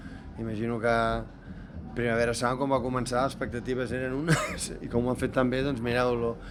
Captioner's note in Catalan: rialles